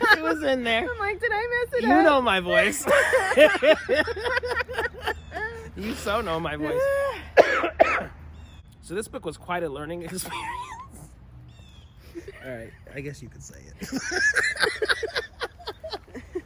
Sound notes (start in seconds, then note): 1.6 laughing; 11.0 laughing